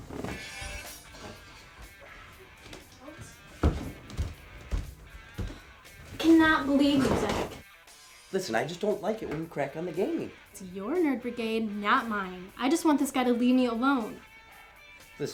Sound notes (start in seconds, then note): 0.3 rock music continues; 2.6 Brooke chattering